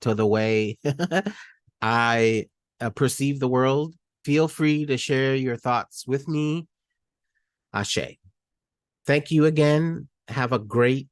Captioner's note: giggle